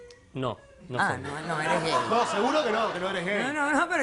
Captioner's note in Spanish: Risas